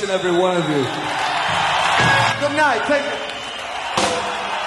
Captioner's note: audience cheers